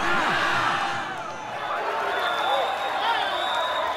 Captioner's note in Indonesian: tepuk tangan